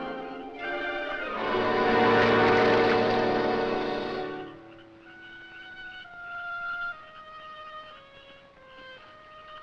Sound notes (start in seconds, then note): 1.4 water splashes; 6.9 somber music